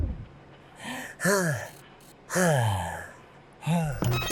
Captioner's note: sighing